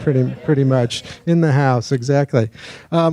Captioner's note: audience laughing